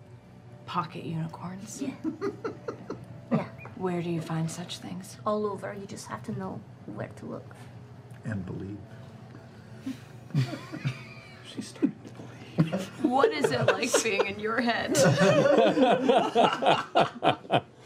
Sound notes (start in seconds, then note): 8.0 quietly; 11.4 quietly; 16.2 laughing